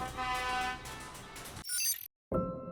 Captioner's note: glitchy fragments of signal